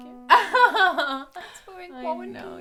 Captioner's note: laughing